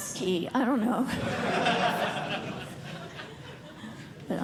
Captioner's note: laughter